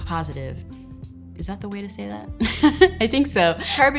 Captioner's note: laughs